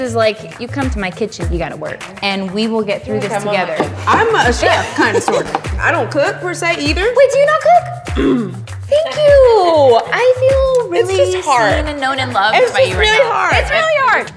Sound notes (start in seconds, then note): 8.1 clearing throat